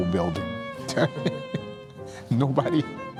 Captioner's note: laughs